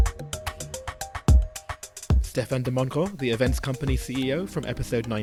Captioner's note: voiceover